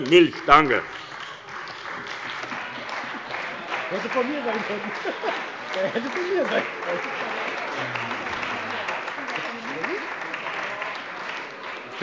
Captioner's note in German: Beifall bei der CDU und dem BÜNDNIS 90/DIE GRÜNEN